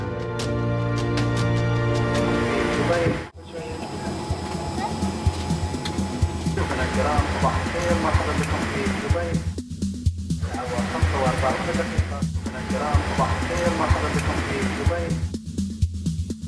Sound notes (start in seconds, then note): 7.3 airport information in Arabic